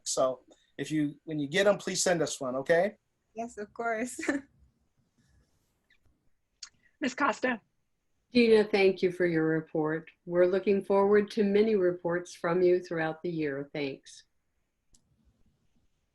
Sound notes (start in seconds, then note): 4.3 chuckles